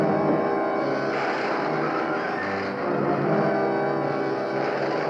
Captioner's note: zapping